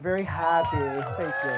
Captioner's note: cheering